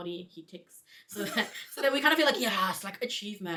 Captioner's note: both chuckle